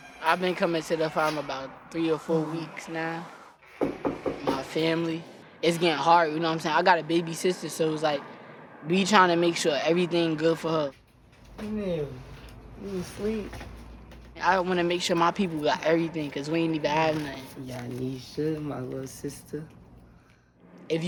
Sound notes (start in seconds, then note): 3.8 knocking on the door